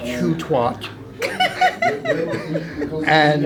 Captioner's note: laughter